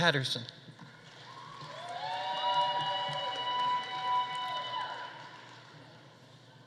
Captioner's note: audience applauding; audience cheering